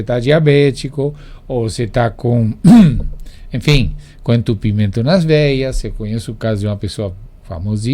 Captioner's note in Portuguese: limpando a garganta